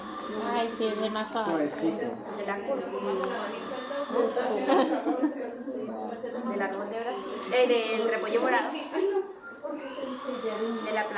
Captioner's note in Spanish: risas